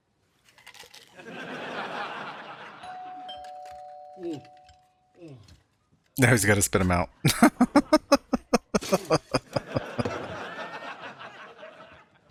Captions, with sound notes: Now he's got to spit them out. [Laughing]